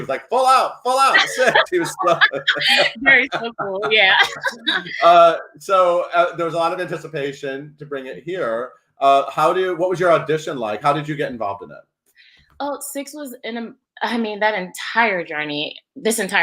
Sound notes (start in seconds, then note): 0.8 laughing; 4.9 laughs